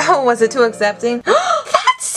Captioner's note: gasp